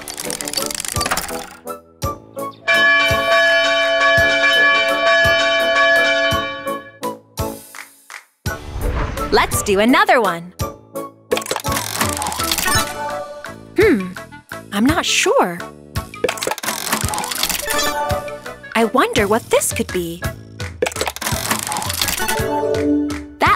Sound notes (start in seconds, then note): 0.0 cranking; 2.5 ringing; 6.8 happy music; 11.4 cranking; 16.3 cranking; 20.9 cranking